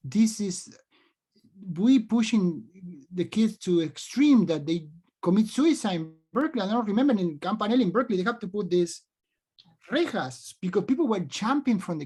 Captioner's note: speaks spanish